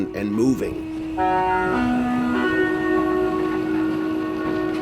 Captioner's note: bus honking